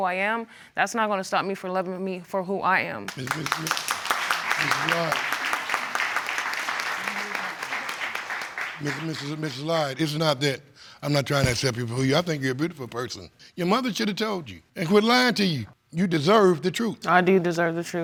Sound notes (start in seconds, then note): 3.0 applause; 8.3 stammering